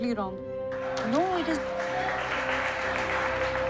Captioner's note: applauses